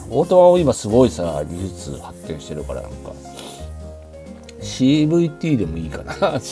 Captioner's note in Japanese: 鼻息